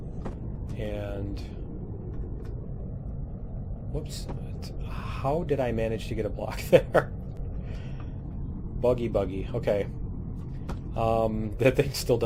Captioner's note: laughs